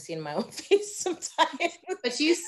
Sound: laughing

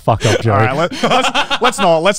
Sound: laughs

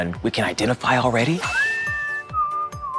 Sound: whistling

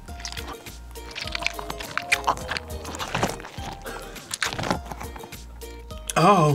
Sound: toy squelches

